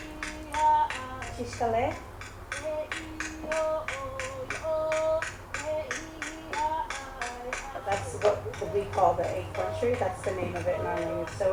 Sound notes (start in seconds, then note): 1.8 non-english speech